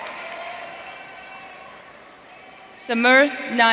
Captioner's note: audience cheering